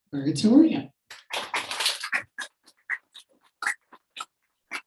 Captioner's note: audience applauding